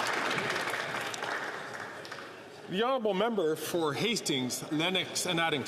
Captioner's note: some Applause